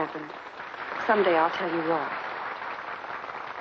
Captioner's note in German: Applaus